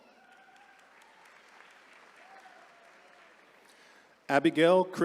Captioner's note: attendees cheering